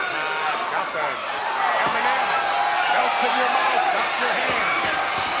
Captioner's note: crowd cheering